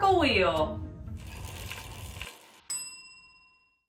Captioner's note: wheel whirs; bell dings